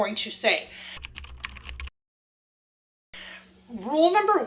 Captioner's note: computer keys tap